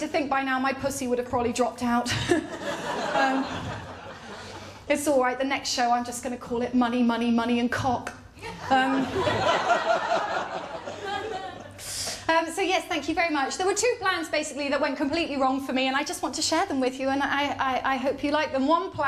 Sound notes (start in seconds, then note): 2.0 laughter; 8.4 laughter